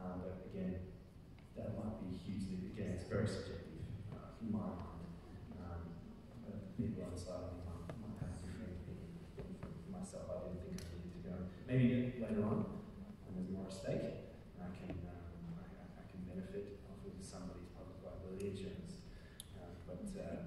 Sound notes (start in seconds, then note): none